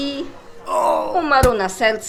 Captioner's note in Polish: jęk bólu